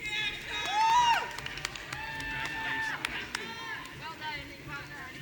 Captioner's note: audience cheering